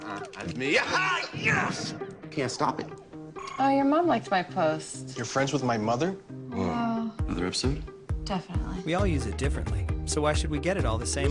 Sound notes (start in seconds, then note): 0.7 excited yelling